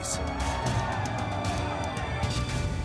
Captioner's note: men shouting